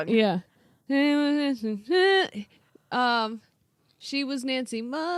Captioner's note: humming